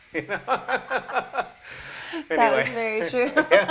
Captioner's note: laughter